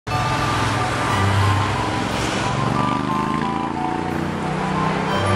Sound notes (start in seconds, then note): 0.1 classical music; 0.1 engine revving